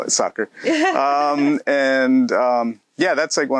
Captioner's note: laughs